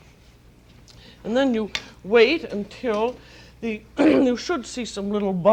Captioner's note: clears throat